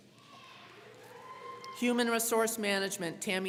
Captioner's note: crowd cheering